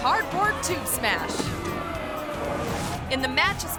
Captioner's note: crowd boos